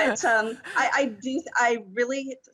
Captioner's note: all laughing